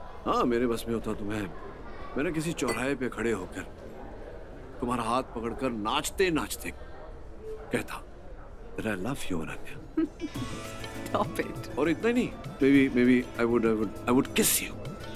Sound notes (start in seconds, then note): 9.9 Ana giggling